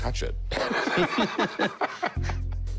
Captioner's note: laughter